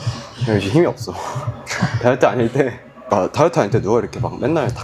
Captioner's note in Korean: 웃음